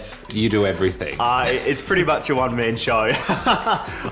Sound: chuckles

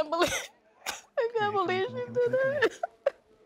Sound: sobs

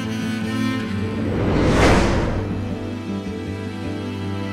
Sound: air whooshes; somber music continues

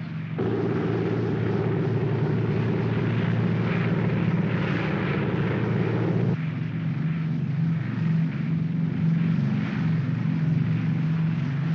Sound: aircraft rumbles

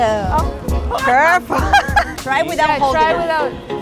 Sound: laughs

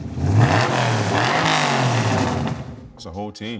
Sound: engine roaring

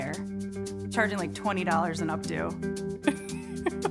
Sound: laughing

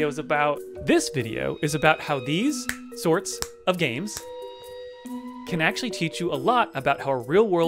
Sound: snap

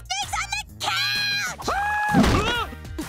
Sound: screaming; laughing

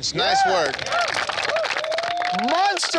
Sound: applauding

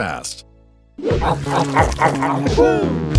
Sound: men gobbling

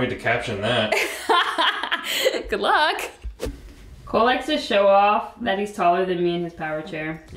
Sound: laughing

